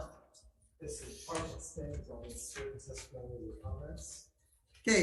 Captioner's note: faintly speaking